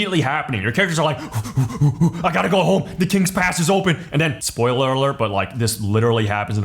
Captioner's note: sprinting breaths